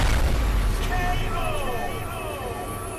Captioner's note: bomb exploding